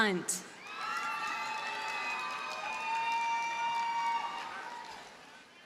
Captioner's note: audience cheers and applauds